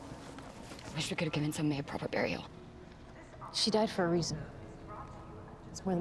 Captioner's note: none